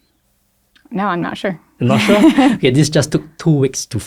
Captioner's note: laughs